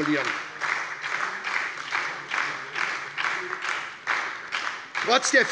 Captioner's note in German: Lebhafter Beifall bei der SPD